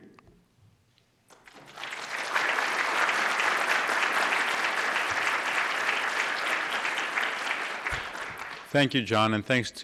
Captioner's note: applause